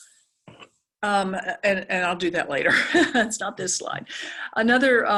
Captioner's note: laugh